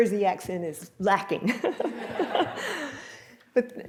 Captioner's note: laughter